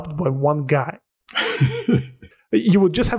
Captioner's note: laughter